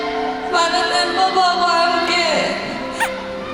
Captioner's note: sniff